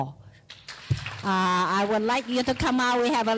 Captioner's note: clapping